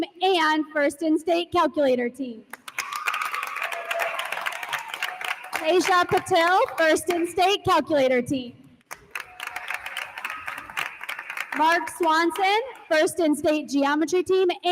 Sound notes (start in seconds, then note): 2.6 attendees applauding; 2.6 attendees cheer; 8.9 attendees applauding